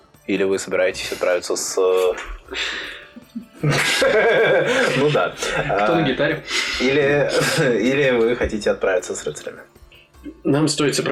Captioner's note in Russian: Стол угарает